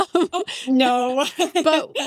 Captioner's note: laughing